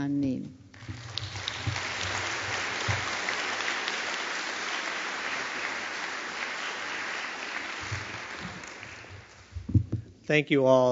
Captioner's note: applause